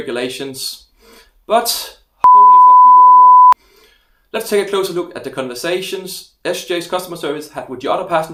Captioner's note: beep